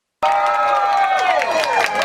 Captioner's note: cheering; clapping